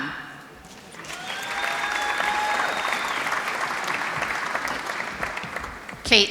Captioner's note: applause